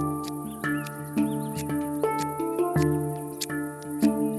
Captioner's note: sounds of the bone awl being sharpened